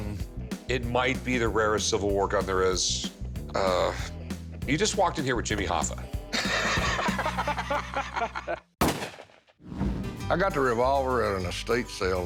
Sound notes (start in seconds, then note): 6.3 both laughing